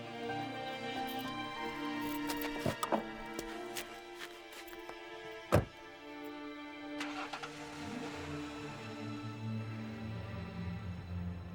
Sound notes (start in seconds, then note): 7.0 engine revs